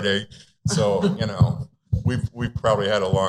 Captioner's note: laughter